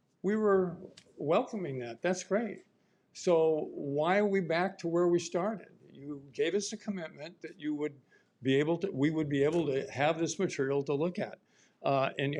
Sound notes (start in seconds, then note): none